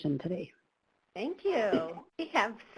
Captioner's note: voiceover